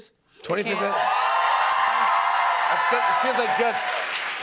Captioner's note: cheers and applause